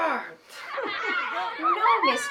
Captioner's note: laughter